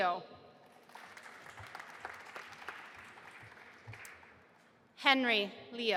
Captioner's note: audience applauding